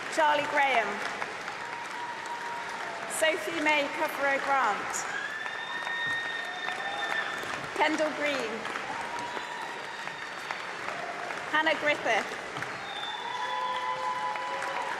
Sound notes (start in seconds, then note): 7.0 applause